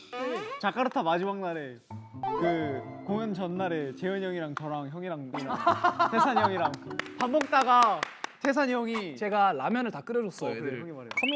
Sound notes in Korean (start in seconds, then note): 5.4 깔깔깔